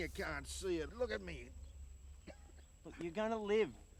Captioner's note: coughing